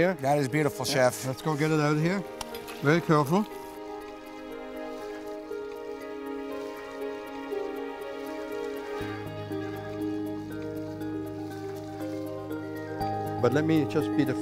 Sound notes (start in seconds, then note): 8.1 sizzling